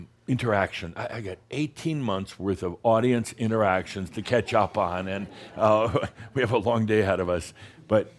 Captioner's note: chuckling